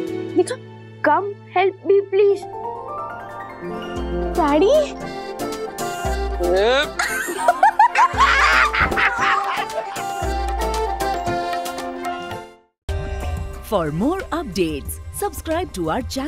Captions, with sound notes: - Show me. - Come help me, please. Dad. (laughs)